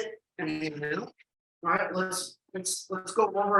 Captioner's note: audio crackles